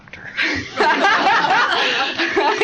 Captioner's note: laughter